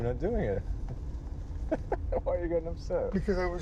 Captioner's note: laughs